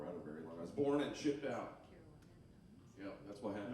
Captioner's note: band members chattering